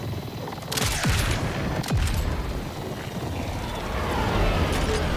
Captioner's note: vehicle engine revving